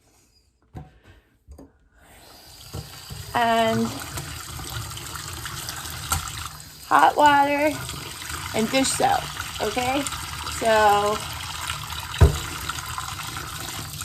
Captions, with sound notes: (water running) Hot water and dish soap.